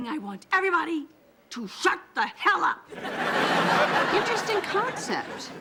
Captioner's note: audience laughing